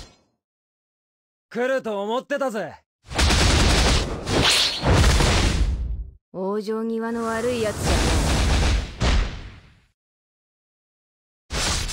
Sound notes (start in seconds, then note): 1.5 speaking Japanese; 3.1 explosions and slashing sounds; 6.8 speaking Japanese